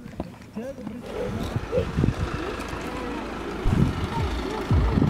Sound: motor running

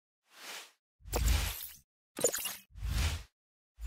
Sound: logo whooshing

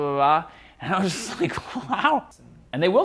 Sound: laughing

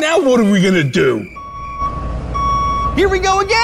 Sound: beeping of a truck backing up

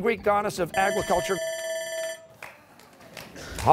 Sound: buzzer

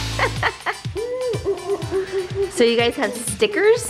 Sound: laughing

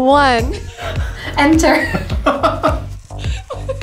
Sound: man laughs

